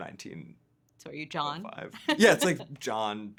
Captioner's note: laughing